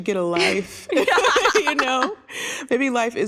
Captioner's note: laughter